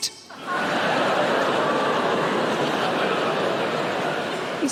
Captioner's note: audience laughing